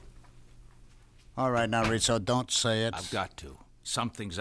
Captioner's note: door opens, closes